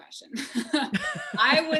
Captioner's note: laughs